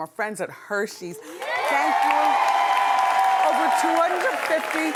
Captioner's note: cheering